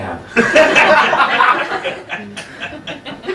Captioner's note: laughing